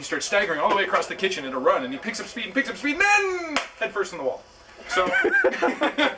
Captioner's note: slap; laughing